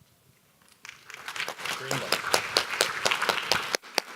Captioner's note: audience clapping